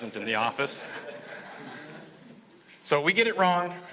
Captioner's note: audience laughing